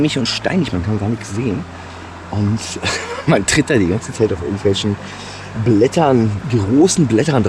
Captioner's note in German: gelächter